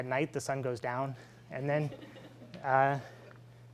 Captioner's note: laughing